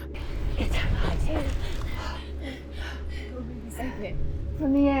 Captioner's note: both gasp